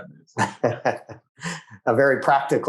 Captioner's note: laughs